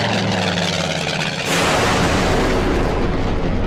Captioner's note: explosion